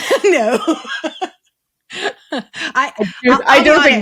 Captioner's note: laughs